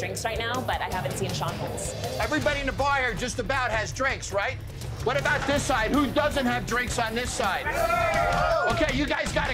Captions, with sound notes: But I haven't seen Sean once. - Everybody in the bar here just about has drinks, right? What about this side? Who doesn't have drinks on this side? [shouting] OK, you guys got to catch up.